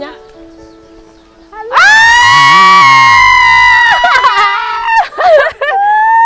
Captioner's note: screams in excitement